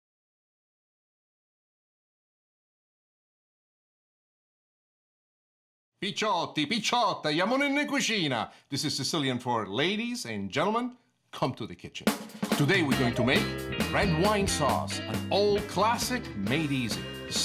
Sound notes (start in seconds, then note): 5.6 speaking in Italian